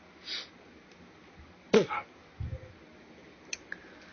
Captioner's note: snorts